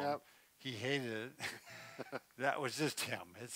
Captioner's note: both laughing